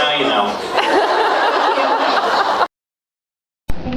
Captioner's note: laughs